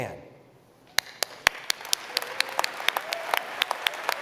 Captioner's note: applause